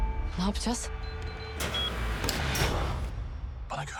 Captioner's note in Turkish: kapı ikaz sesi